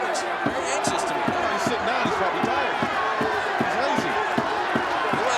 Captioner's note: audience cheers